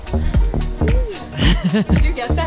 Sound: laughs

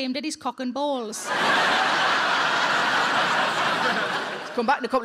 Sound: audience laughing

